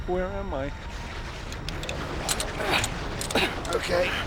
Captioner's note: grunting